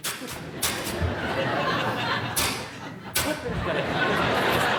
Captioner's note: audience laughing